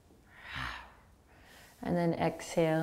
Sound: growling exhale

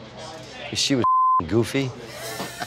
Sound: beep

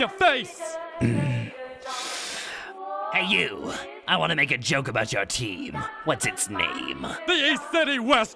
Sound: inhales

